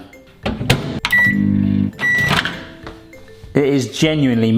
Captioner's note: microwave beeping